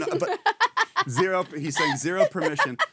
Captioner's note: laughing